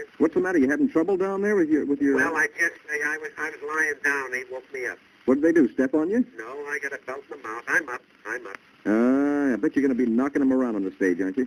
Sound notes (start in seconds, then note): 0.3 on phone; 2.4 on phone; 5.4 on phone; 9.1 on phone